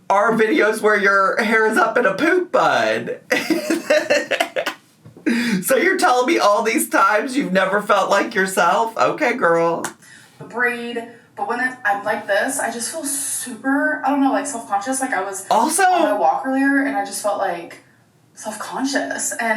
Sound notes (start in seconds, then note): 3.2 laughs